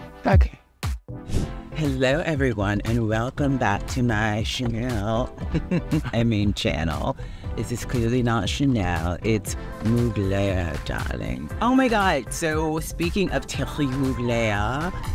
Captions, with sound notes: - Okay. Hello, everyone, and welcome back to my Chanel. [laughs] I mean channel. This is clearly not Chanel, it's Mugler, darling. Oh my God! So, speaking of Thierry Mugler,